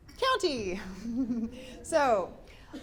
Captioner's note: giggles